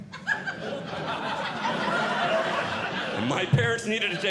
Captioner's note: audience Laughing